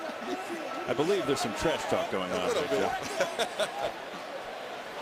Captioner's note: laughing